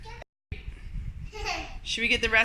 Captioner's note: giggles